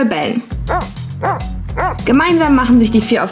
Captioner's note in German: Hundebellen